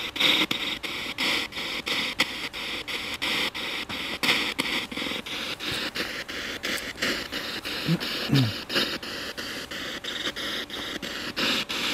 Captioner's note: radio noise from the spirit box